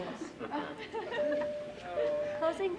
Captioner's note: everyone chuckle; bell dinging